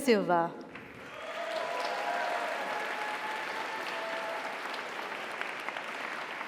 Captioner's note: audience applauds; audience cheers